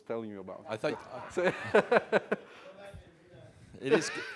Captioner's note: laugh